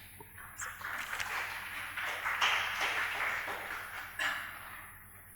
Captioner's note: audience applauding